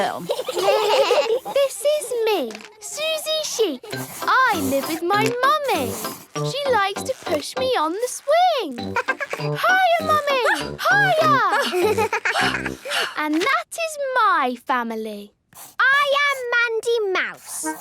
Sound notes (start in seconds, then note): 0.0 children giggling; 8.8 giggles; 11.4 panting